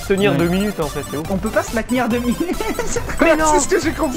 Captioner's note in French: rire